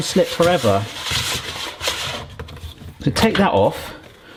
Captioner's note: spiralizer scraping